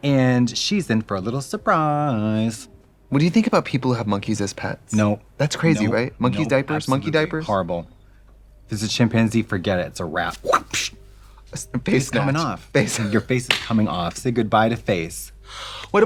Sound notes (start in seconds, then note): 10.3 imitates whip; 12.8 laughing